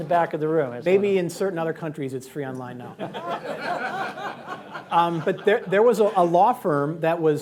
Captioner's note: laughter